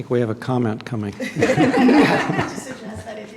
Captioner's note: laughter